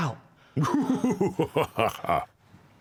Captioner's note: maniacal laughter